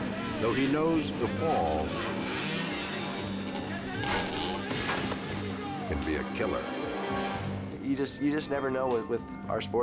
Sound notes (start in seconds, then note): 3.8 bike revs